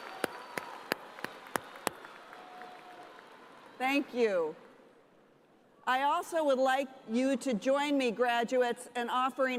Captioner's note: cheers and applause